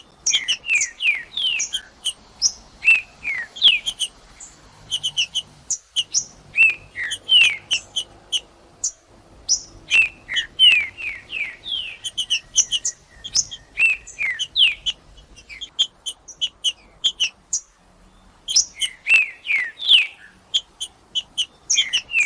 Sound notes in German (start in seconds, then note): 11.3 trinca ferro cantando; 13.2 trinca ferro cantando; 15.3 trinca ferro cantando; 17.3 trinca ferro cantando; 19.3 trinca ferro cantando; 21.3 trinca ferro cantando